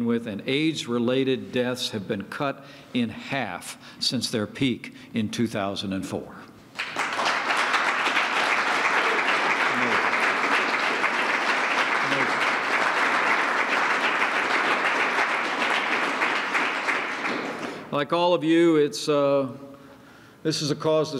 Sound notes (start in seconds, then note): 6.7 applause